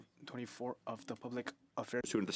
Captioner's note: speaking French